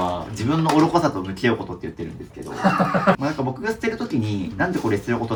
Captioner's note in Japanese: 笑い